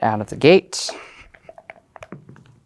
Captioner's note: dice rattling; dice rolling